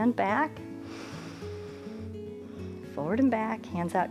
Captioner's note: inhales and exhales